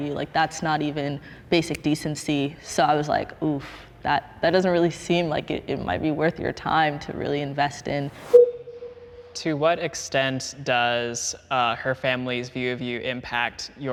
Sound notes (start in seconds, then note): 8.2 transition whooshes; 8.2 transition bleeps